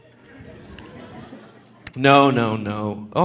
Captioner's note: audience laughing